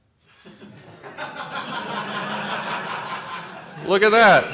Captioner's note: laughter